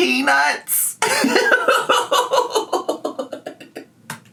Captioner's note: laughs